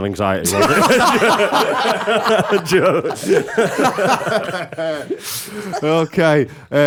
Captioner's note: laughter